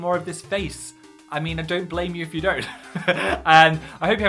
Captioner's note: laughs